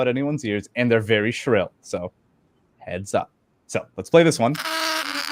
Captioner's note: balloon squeaking